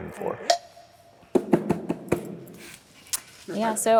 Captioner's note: banging on chair